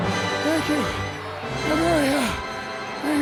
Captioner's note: breathing deeply